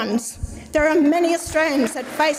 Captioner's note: audience applauds